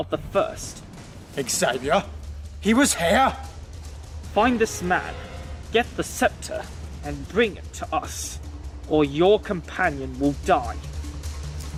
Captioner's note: shocked